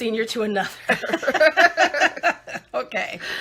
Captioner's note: laughing